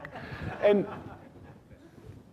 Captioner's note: laughing